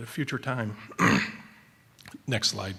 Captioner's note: clears throat